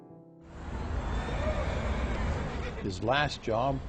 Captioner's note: city noises, horse whinnies in the distance